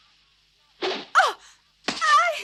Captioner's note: shoutings